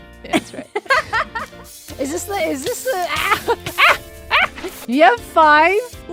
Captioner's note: laughs; squawks in pain